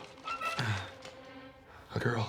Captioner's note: grunts